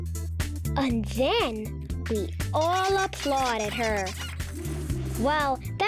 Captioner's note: animals squeaking